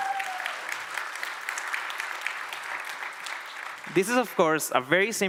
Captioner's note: applause